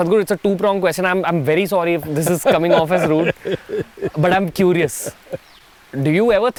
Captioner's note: Sadhguru laughs